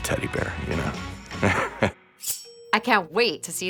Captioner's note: chuckles